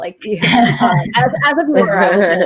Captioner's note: laughing